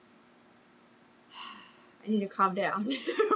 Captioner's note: sighs; laughs